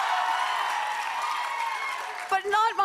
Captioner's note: cheers and applause